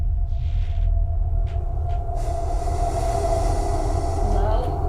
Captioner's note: floor creaking